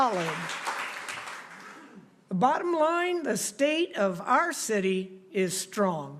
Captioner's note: applause